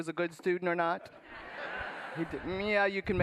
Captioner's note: laughter